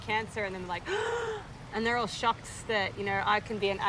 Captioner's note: gasps